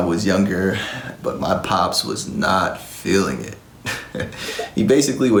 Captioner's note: giggles